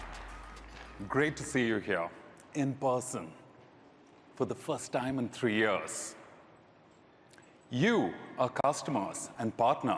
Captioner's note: applause